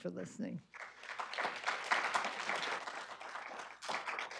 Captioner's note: applause